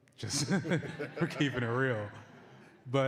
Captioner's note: laughter